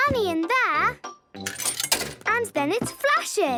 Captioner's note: coin tumbling